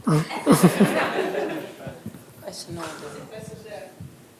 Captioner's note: laughter